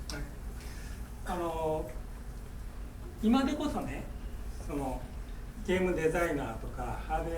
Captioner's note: speaking in foreign language